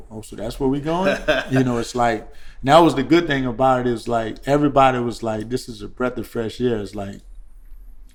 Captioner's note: laughter